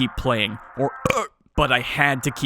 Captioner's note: belch